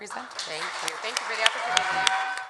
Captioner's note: audience applauds